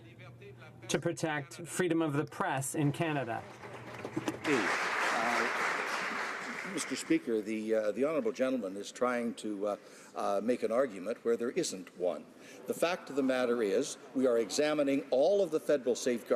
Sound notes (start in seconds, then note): 7.4 some Applause